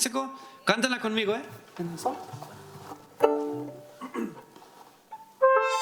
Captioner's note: speaking in foreign language